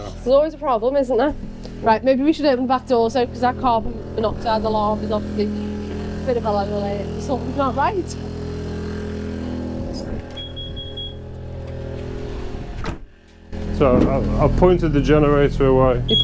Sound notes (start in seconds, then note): 10.3 beeping